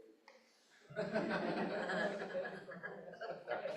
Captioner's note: chuckles